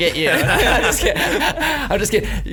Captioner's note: laughing